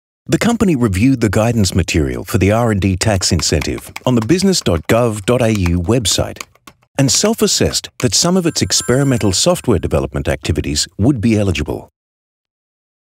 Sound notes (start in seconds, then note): 3.4 clicking keyboard sounds; 7.7 ringing sound